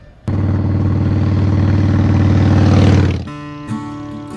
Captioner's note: engine roaring; gentle music